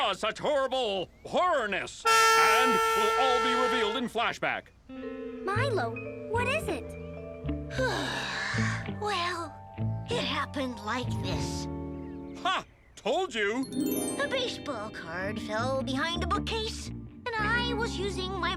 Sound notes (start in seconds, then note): 2.0 air horn blows; 7.8 Milo sighs